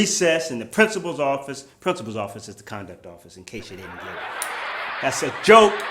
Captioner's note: laughter